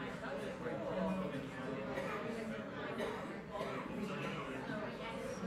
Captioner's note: people chattering